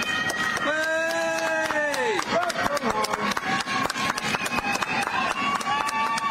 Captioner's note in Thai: เสียงหัวเราะ; ปรบมือ